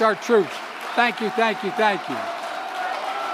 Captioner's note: applause